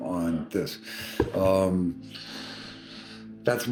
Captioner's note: inhaling sharply